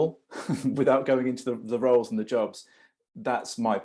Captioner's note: laughs